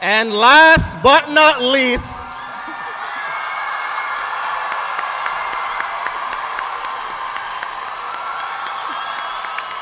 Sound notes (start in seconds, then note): 2.7 audience cheering